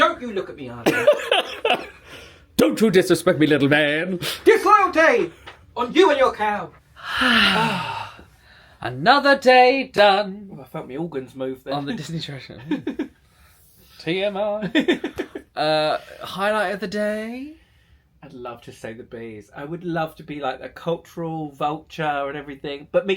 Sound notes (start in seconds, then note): 0.8 laughing; 6.9 both sigh deeply; 12.5 laughing; 14.6 laughing